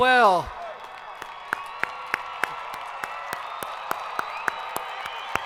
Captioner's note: audience applauding